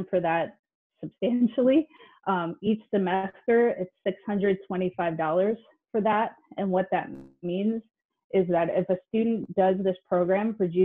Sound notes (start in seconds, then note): none